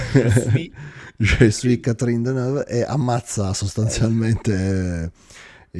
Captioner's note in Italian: risate